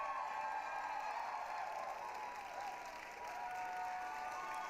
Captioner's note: applause, cheering